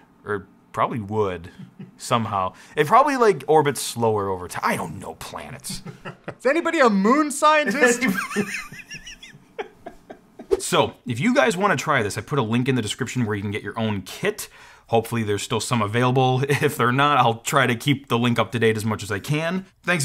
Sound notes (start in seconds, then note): 5.6 laughs; 9.3 both laughs